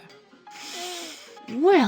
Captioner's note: inhale